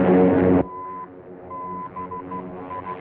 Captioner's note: beeping